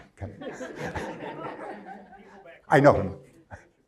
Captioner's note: crowd laughs